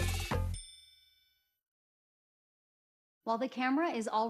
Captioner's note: bell dings